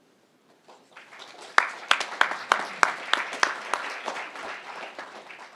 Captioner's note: crowd applauding